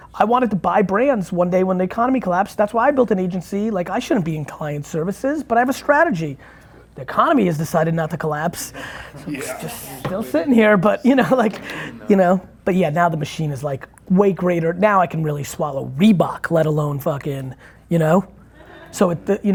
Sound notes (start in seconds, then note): 9.0 laughing